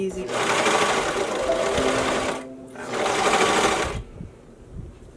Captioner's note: machine whirring